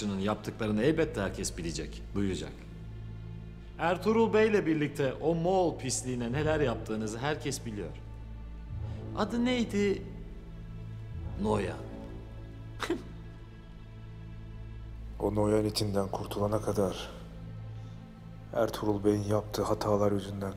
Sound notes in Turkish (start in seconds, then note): 12.8 Gülme sesi